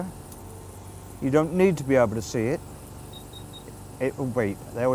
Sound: machine Beeps

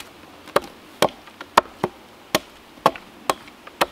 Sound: pounding

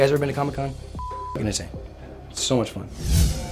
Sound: beep

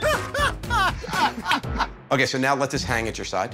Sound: laughter

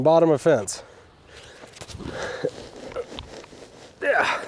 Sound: panting; post scraping; groaning

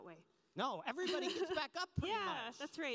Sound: laughs

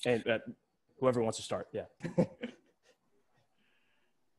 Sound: laughs

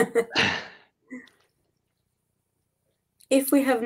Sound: they chuckle

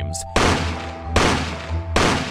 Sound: gunshot

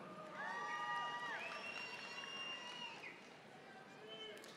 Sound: audience applauding

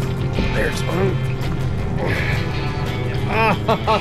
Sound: grunts

